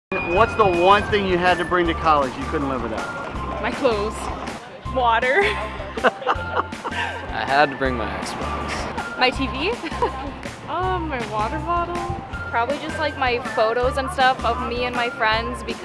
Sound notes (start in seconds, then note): 5.3 laughs